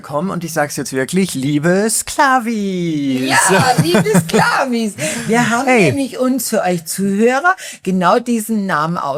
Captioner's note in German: gelächter